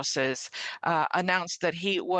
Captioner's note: speaking French